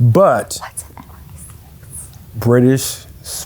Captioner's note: whispering